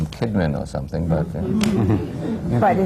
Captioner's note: laughter